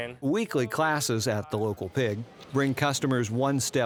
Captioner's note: voiceover